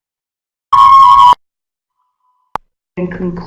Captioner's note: feedback